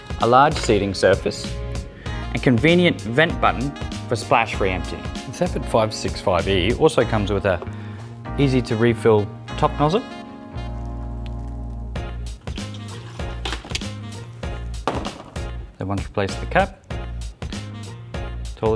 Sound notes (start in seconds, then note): 11.5 water burbles